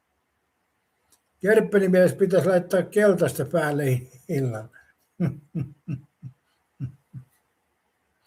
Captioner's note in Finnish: naurua